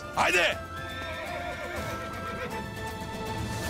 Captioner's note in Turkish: At kişniyor